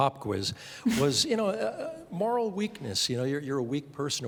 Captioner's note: chuckling